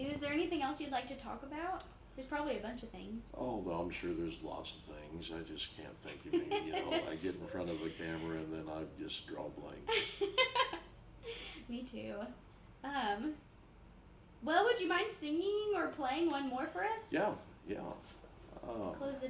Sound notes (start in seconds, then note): 9.9 laughs